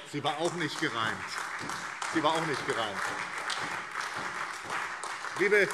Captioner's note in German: Beifall SPD, AfD und Freie Demokraten